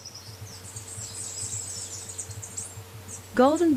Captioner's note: birds singing and chirping